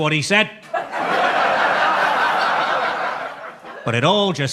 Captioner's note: audience laughs